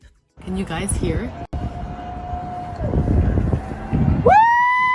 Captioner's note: people cheer